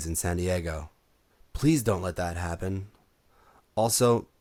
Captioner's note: none